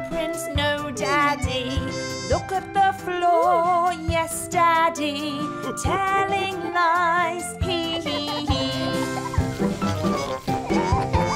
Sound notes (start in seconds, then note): 7.8 dad giggling